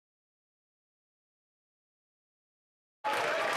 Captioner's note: cheering